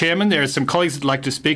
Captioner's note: speaking FRENCH